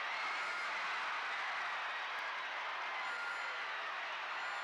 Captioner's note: crowd cheers